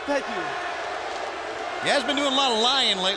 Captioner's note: crowd chatter